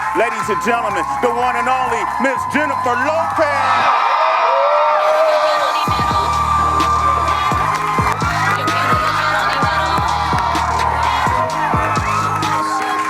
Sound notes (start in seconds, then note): 4.1 audience cheering